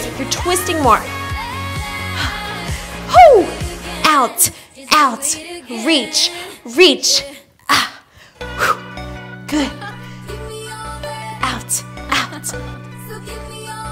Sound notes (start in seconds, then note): 2.1 exhales; 7.9 exhales